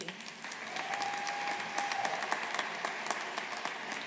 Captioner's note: audience applauding